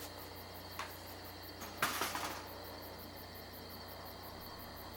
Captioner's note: clattering